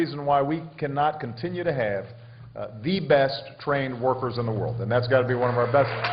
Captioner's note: applause